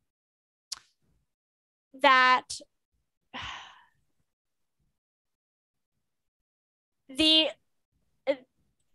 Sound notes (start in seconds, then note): 3.4 sighs